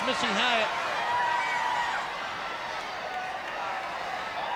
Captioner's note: crowd roars